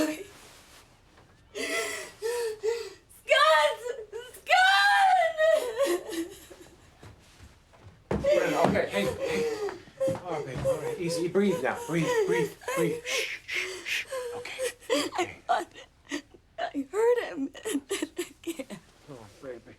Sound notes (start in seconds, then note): 1.0 cries; 4.8 cries; 14.5 sobs